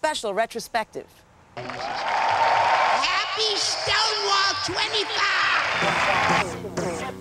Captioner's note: applause, cheers; cheers